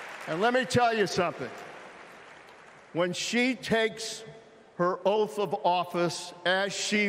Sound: cheering

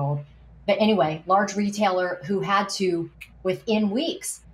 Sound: snaps fingers

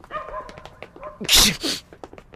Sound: sneezes

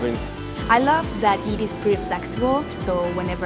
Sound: bandsaw cutting and 3d printer sounds

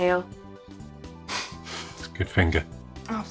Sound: chuckling

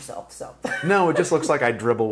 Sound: laughing

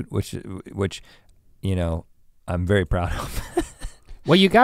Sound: laughs

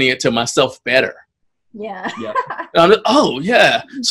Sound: laughs

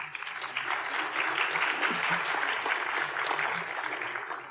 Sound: applause

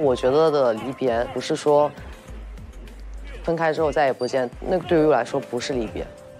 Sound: sample 4: The sound of radio calisthenics

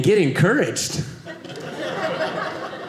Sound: audience laughing

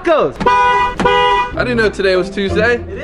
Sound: car horn honks

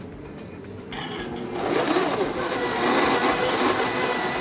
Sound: blender whirs

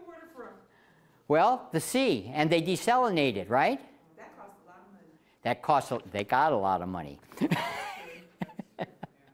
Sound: laughing

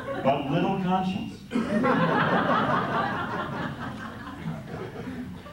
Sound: laughter

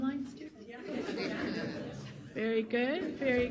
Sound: audience laughing

